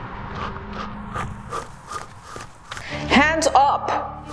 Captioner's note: footsteps clopping